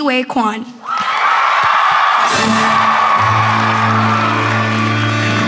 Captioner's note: applause